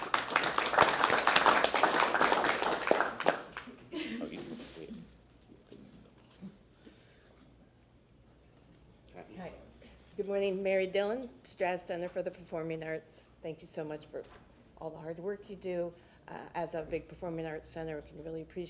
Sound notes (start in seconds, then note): 2.7 applause